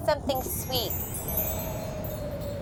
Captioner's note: chimes tinkle; wind blows